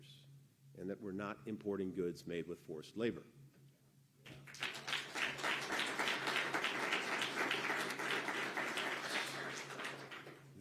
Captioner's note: applause